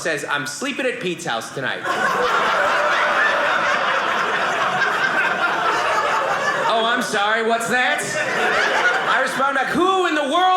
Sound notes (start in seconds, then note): 1.8 audience laughing